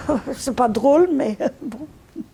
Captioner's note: laughing